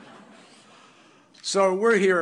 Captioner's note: laughter